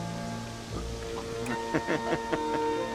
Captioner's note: laughing